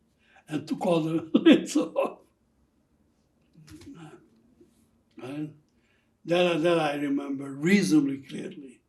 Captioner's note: laughing